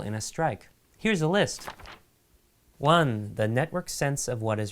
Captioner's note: paper fluttering